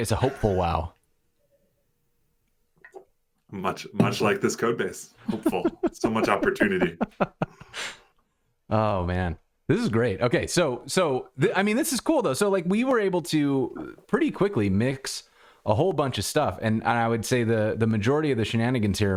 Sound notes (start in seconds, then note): 5.2 laughter